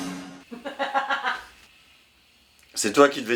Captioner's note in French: rires